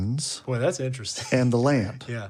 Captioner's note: chuckles